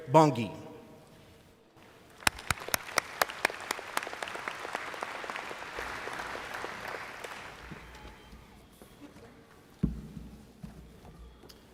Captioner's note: applause